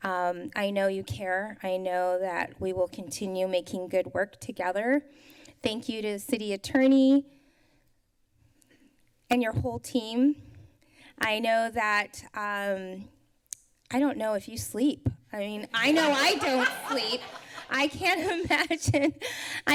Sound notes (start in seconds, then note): 15.7 laughter; 19.1 laughs